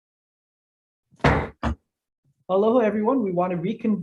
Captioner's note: banging of the gavel